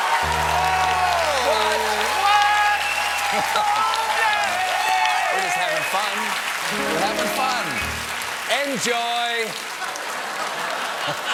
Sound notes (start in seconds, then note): 4.2 cheers and applause; 6.7 piano riff